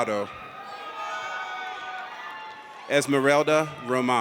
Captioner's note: audience cheers